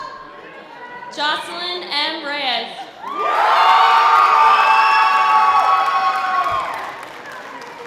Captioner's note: sustained audience applause